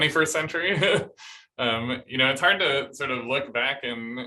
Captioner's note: laughter